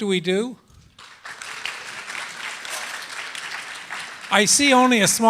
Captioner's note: applause